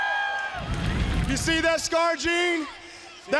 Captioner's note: crowd cheering